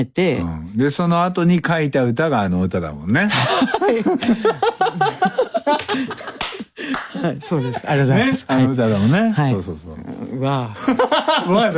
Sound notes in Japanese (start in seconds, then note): 5.9 爆笑; 6.2 break into a laugh